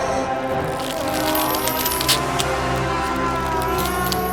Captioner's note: skin ripping